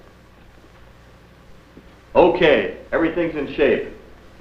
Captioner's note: soft footsteps